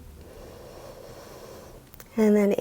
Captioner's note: inhales